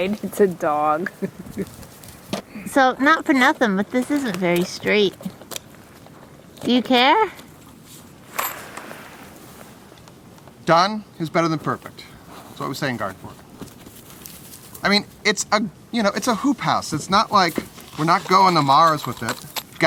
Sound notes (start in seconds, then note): 1.1 laughter